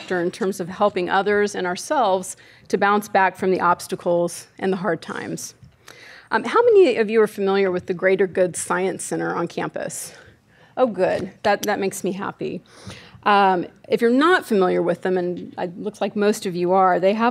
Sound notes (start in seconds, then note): none